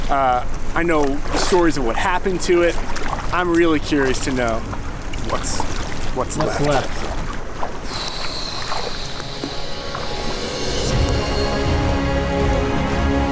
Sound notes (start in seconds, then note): 7.8 air hissing; 9.3 exciting music